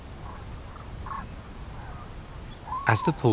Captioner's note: birds chirp